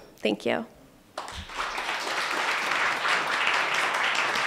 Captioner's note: applauding